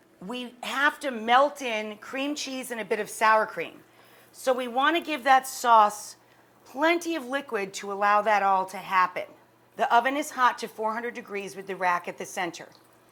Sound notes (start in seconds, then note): none